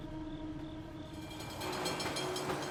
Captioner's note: tram bell ringing